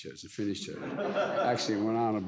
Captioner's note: audience laughs